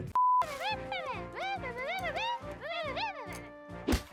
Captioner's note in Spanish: Giggles balbuceantes